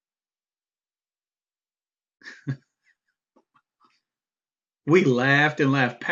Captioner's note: chuckling